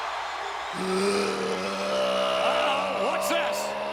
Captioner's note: crowd cheering; person growling